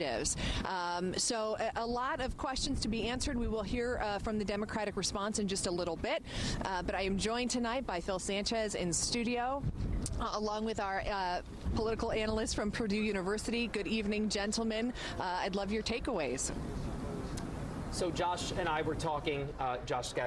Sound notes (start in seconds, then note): none